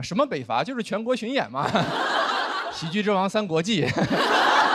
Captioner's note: laughter